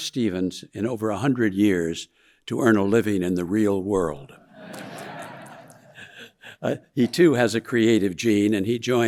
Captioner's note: audience laughing